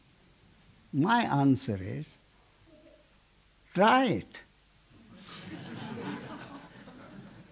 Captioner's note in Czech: smích